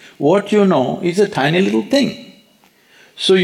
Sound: none

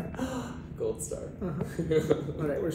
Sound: gasps

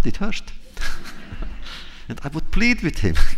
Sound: laughter

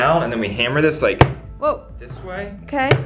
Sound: hammer thudding

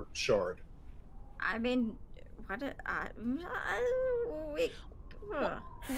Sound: groaning

